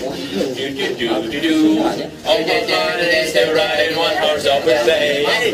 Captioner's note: making the dolls while humming carols